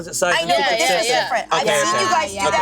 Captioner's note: group chattering